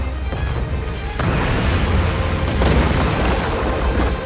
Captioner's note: thudding